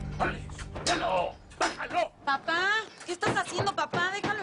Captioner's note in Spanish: Latigazos